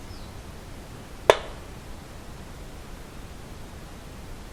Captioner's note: thudding